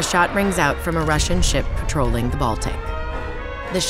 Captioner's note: cannon booming